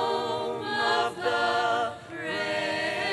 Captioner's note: none